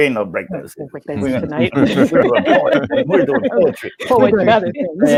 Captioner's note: laughter